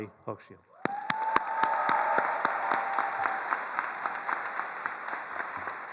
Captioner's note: attendees cheering and applauding